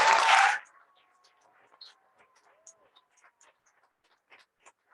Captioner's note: cheering and applause